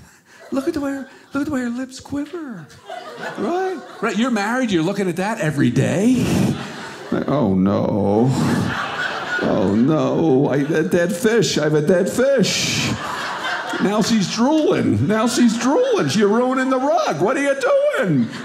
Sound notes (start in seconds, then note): 8.6 audience laughing; 12.9 audience laughing